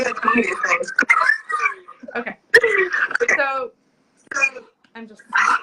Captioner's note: laughing